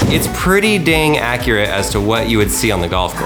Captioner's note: bang